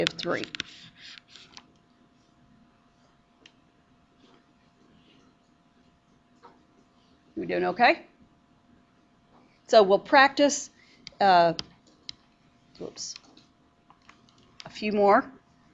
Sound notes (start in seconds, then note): 1.3 long pause, no talking